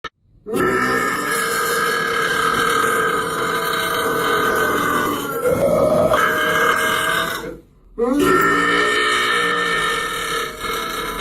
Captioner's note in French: Burp